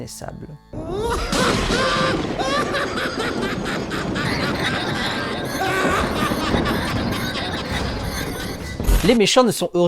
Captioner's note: evil boar laugh